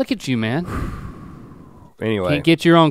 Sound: Rhett sighs

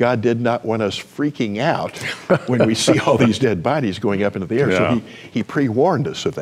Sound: chuckles

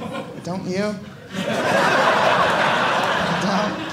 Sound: audience laughing

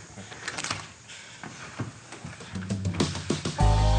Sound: door opening

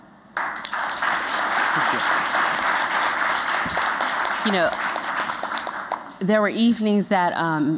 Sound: applause

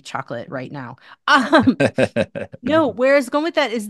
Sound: laughs

